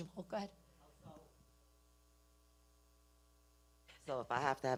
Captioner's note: speaking away from mic